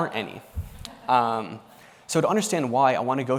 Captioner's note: laughter